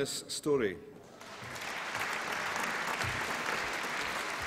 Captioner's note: applause